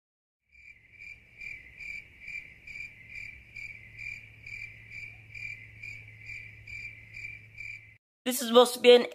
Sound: more Cricket Noises

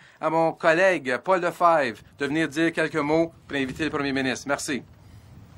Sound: speaking French

